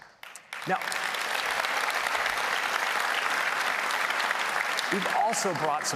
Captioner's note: applause